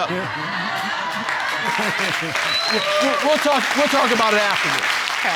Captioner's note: audience laughing